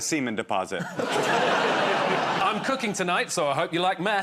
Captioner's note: laughter